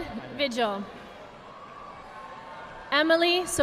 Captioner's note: audience applauding